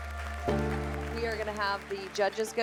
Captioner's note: all applauding